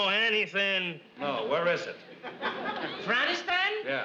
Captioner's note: audience laughs